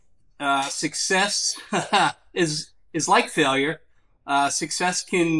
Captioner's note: laughs